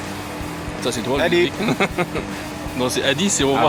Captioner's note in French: haha